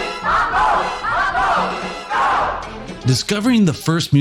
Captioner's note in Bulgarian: тълпа